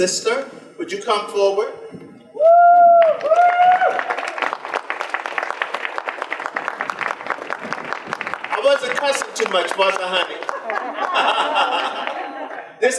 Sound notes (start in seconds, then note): 5.0 audience applause; 10.2 audience laughter